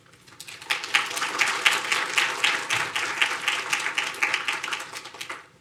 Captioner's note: audience applauding